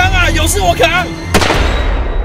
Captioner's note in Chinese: 開槍聲